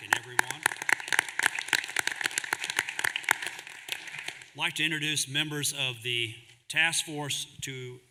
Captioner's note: applause